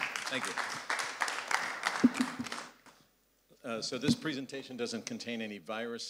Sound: applause

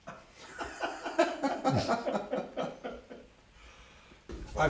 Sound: laughter

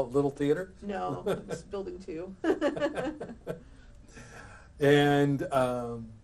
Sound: both laugh

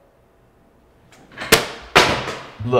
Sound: smack

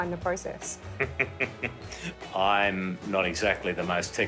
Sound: laughs

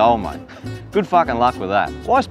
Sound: laughs

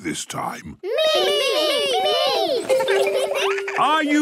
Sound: laughter

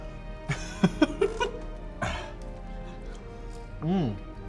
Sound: laughs

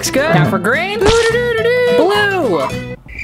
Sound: triumphant nonverbal

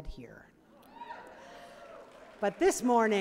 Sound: cheering

